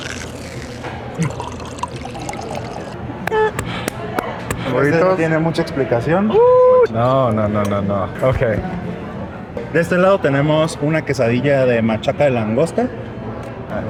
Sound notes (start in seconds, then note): 0.2 tortilla crunches; 5.0 speak in Spanish; 10.0 speak in Spanish